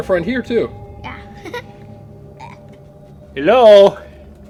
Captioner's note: laughing